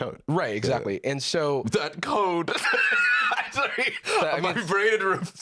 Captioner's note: laughs